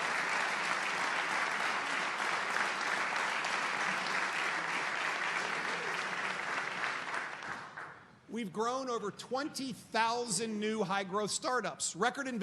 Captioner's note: applause